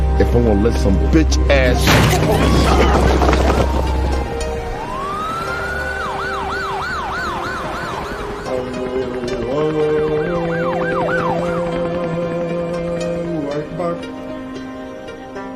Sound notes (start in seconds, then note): 1.8 gun fires; 5.7 police siren